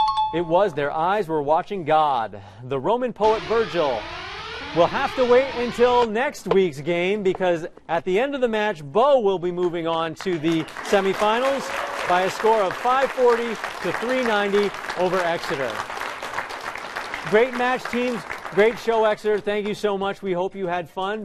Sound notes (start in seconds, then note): 3.2 alarm blaring